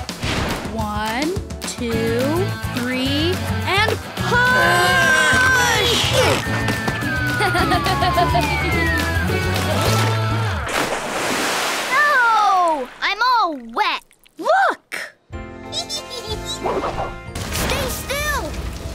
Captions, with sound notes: One, two, three and push. [laughing] [splashing] No! I'm all wet. Look. Stay still!